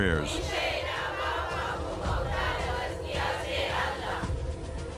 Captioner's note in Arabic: الصوت المنطوق باللغة العربية